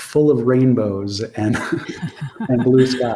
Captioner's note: both laughing